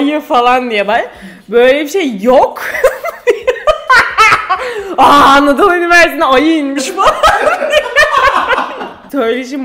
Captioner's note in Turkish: Gülüyor